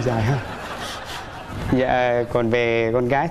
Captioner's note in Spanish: risas